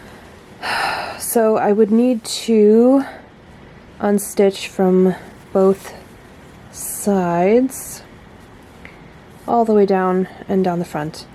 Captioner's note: heavy sigh; sigh